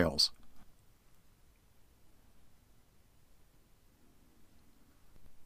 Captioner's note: silence